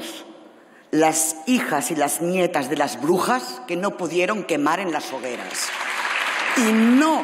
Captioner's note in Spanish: Aplausos